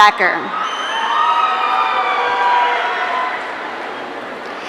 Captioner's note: audience cheering